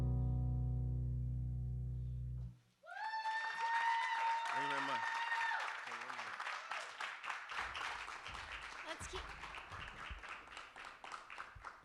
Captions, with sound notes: (audience applauding) (audience cheering) Thank you very much.